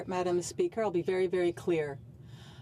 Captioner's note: speaking French